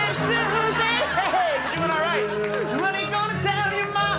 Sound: laughs

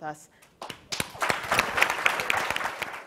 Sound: audience applauds

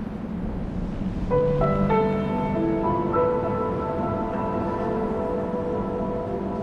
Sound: wind whistles; pensive music

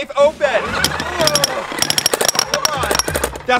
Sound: drilling noises

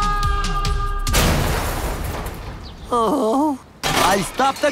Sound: Hank groans; loud crash

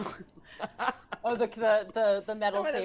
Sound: Fairuza laughs

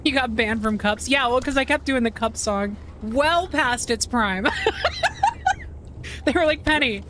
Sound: laughter

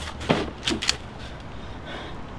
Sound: gun cocks

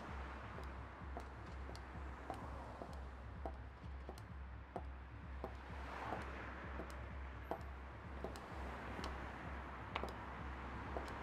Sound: high heels clicking

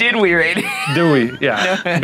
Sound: laughing

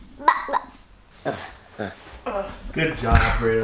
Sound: grunting

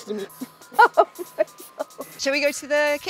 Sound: laughs

